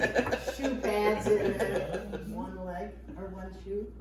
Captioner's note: all laughing; laughing